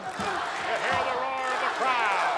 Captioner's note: audience cheering